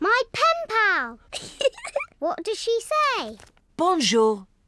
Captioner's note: giggles